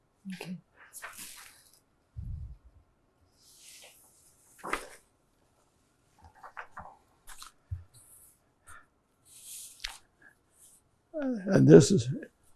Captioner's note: pauses 10 seconds